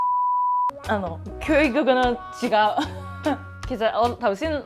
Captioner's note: laughs